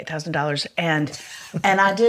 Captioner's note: laughs